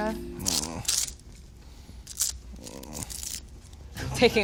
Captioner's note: groaning